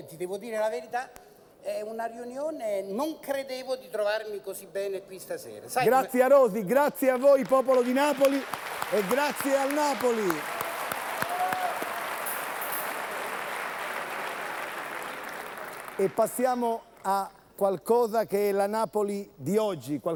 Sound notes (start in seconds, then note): 5.3 Applauso